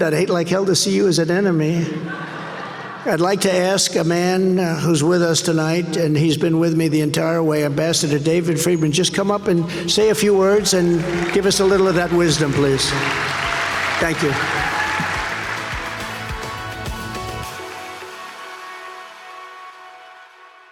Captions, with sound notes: I'd hate like hell to see you as an enemy." (audience laughing) I'd like to ask a man who's with us tonight, and he's been with me the entire way, Ambassador David Friedman. Just come up and say a few words and give us a little of that wisdom, please. Thank you. (audience cheering) (upbeat music)